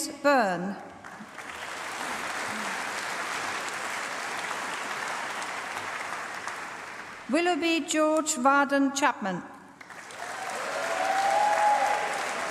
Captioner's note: applause; applause